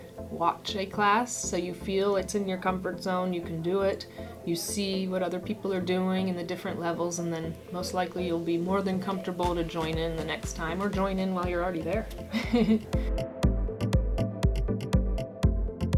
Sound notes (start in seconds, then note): 12.3 laughs; 13.1 upbeat music